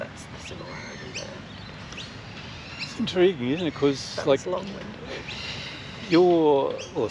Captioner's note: laughs